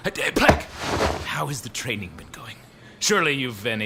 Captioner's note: fabric rustling